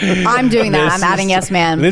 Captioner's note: laughs